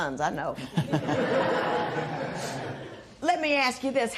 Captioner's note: laughter